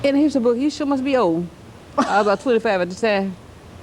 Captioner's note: laughter